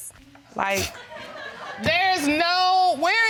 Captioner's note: faint laughter